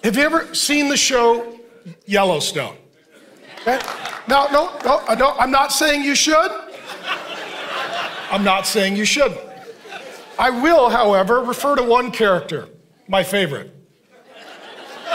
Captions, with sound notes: Have you ever seen the show "Yellowstone"? (congregation applauding) I'm not saying you should. (congregation laughing) I'm not saying you shouldn't. I will, however, refer to one character, my favorite.